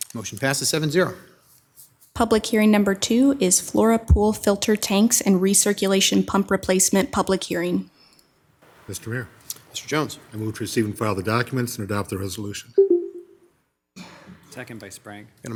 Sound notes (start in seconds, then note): 12.8 electronic beeping